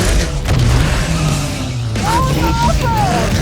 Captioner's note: dirt sputters